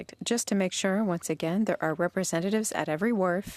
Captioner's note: speaking French